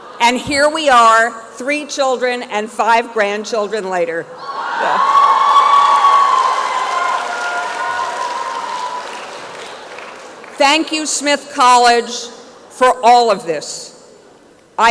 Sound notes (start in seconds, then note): 4.9 applause and cheering